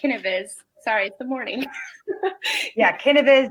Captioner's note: laughs